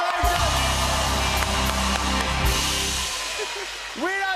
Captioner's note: cheers and applause